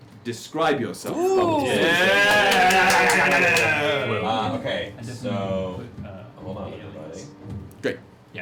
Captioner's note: cheering